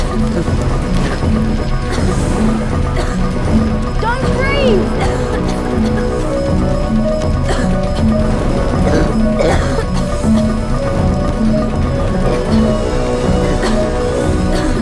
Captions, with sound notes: [COUGHS] DON'T BREATHE!